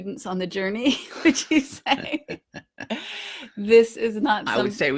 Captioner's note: both laughing